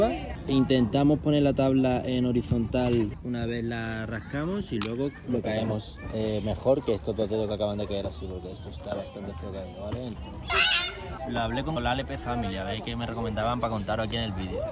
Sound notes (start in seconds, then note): 10.4 kid screaming without any comprensible reason